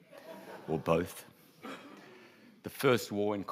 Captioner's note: audience laughs